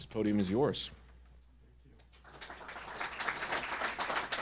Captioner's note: applause